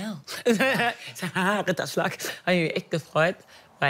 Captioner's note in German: lacht